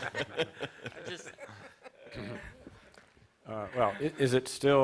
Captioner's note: chuckles